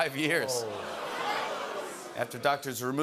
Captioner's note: audience "Ohhs"